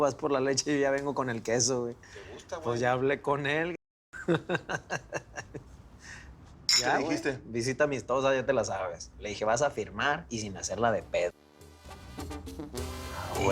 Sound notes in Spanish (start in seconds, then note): 4.2 Ríe; 6.6 Chocan las botellas